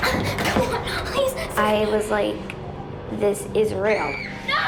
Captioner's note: screams